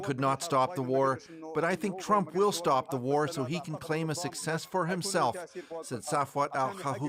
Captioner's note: speaking alternate language